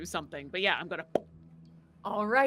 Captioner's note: popping mouth